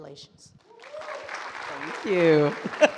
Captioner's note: audience applauds and cheers